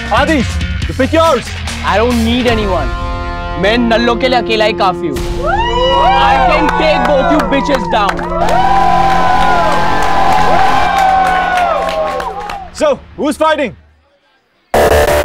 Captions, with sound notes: Adhish, pick yours! I don't need anyone. I am enough for them. - [All hooting] - I can take both you b*****s down. [All hooting, clapping] So, who is fighting?